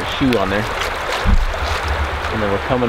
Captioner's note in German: Flusswasser fließt